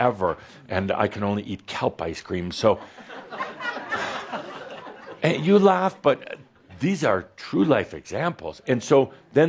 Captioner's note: laughter